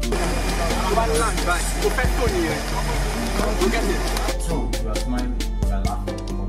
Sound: speaking foreign language

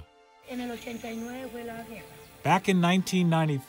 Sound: speaking Spanish

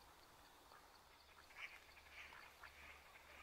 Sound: crickets and birds chirping

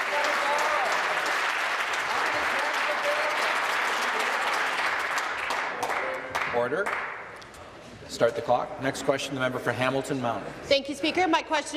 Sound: applause

